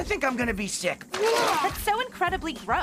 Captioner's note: Owen Vomiting